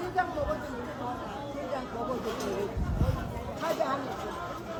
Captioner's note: people talking